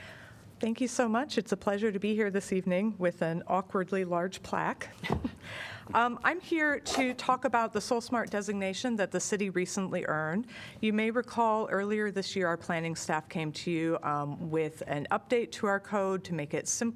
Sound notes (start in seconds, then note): 5.0 laughter